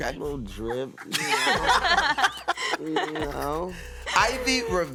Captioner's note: laughter